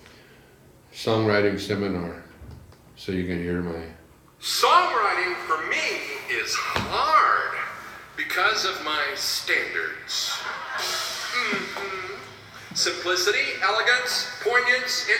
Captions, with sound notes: Songwriting seminar. So you can hear my... Songwriting for me is hard! Because of my standards. (cymbals clashing) (audience laughing) Mm-hmm, simplicity, elegance, poignance,